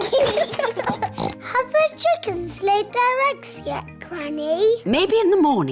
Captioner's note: both giggling; oinks